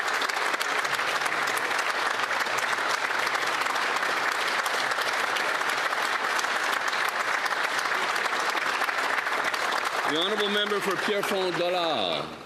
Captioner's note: applause